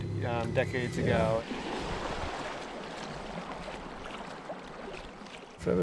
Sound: splashing

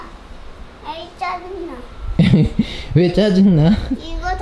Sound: laughter

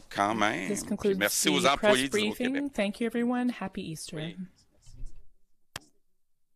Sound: speaking French

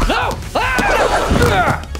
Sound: screaming

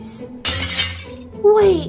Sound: glass shatters

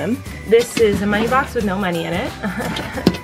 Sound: laughing

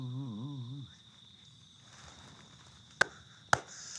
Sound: claps

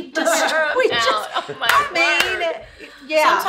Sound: laughs; claps

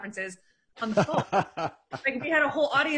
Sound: laughing

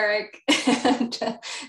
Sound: laughs

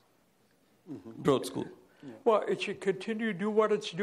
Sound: voiceover

